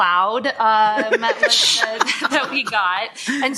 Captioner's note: laughter